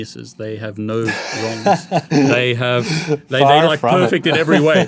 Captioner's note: laughs